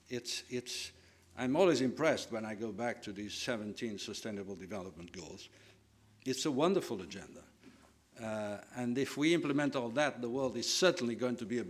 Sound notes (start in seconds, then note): none